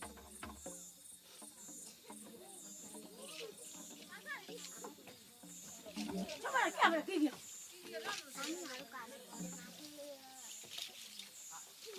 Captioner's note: insect Sounds And Speaking In Foreign Language